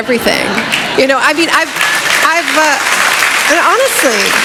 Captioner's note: applause